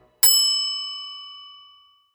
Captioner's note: bell dings